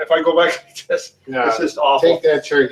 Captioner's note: chuckles